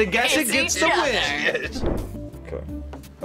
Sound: laughs

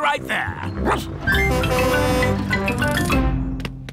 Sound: barks; horn honking

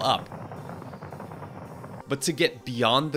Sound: rocket engines roaring

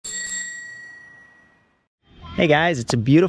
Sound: bell ringing

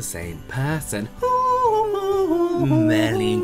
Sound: humming Some Random Xmas Song

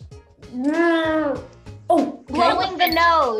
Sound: Maitreyi growling

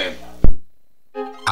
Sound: mic cuts

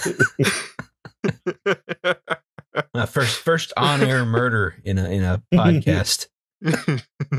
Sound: laughter

